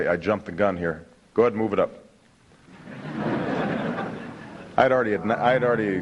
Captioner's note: laughter